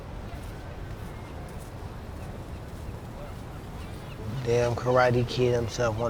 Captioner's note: gulls squawking